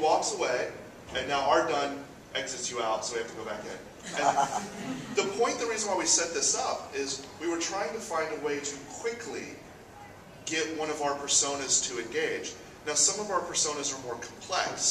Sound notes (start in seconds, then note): 4.0 audience laughs